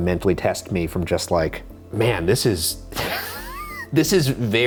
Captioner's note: chuckles